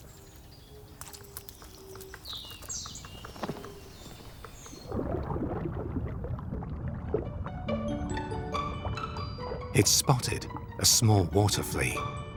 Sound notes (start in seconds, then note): 0.0 bird sings; 5.3 water sloshes; 7.2 playful music